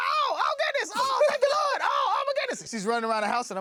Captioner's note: screaming